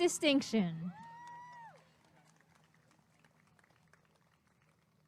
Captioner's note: applause and cheering